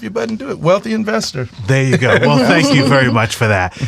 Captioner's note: laughs